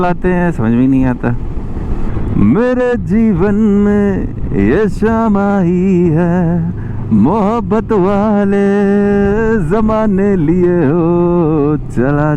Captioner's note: humming